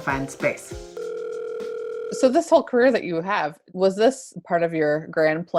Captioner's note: ringing